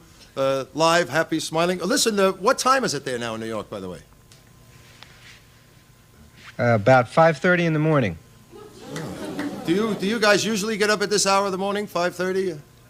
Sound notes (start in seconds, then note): 8.6 audience mutters in shock